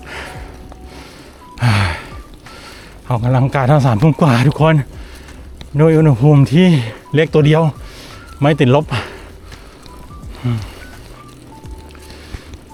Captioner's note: sighs